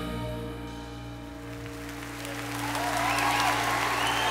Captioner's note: applause